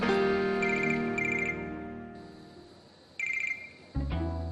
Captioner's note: soft music continues; phone ringing